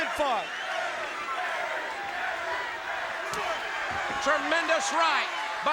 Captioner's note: crowd chatter